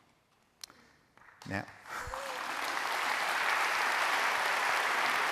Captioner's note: applause